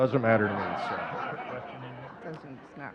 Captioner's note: audience laughing